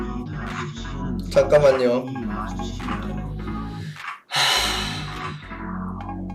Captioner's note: Sigh